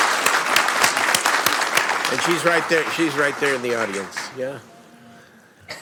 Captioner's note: applause